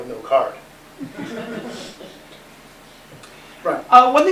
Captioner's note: laughter